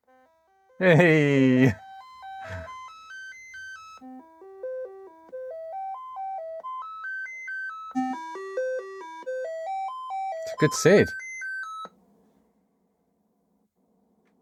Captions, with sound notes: (Beeping) (Beeping) It's a good SID.